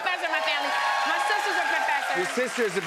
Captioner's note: cheers and applause